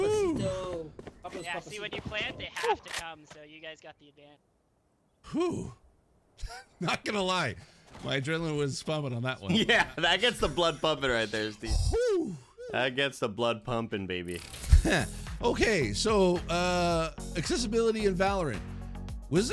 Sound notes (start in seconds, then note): 5.2 lets out a sigh of relief and laughs; 11.9 lets out another relieved sigh; 14.3 digital glitching sounds